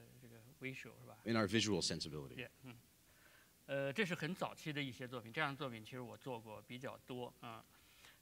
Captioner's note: speaking in Chinese; speaking in Chinese